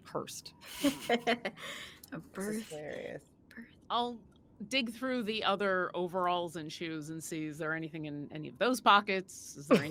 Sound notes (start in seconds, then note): 0.7 giggling